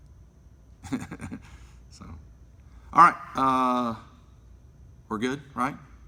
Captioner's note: laughs